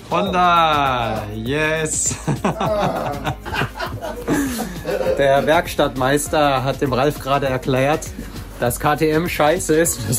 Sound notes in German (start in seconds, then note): 2.1 Gelächter